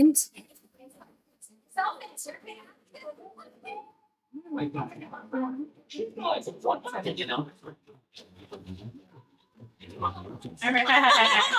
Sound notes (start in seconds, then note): 1.9 faintly speaking